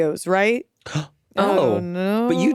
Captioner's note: gasps